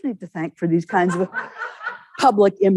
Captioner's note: audience laughing